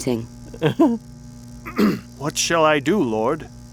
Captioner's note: Saul chuckling nervously; Saul clearing throat